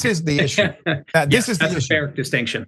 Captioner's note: laugh